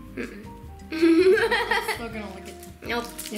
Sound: laughing

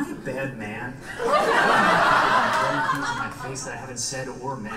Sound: audience laughs

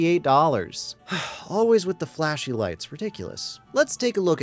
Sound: sigh

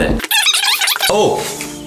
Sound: videotape screeching

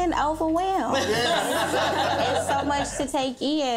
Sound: all laughing

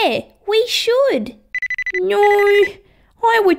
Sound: phone ringing

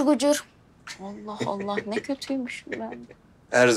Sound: Yusuf laughs

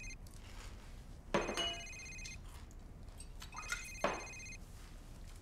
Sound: phone ringing

